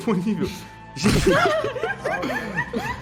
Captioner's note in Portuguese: Risadas